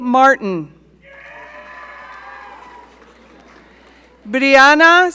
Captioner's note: audience cheering